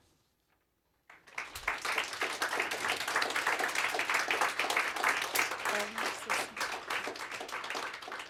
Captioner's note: applause